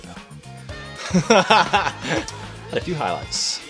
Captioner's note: laughing